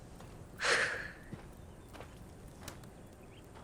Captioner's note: Clive sighs